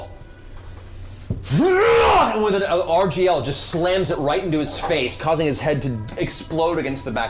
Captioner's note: angry yell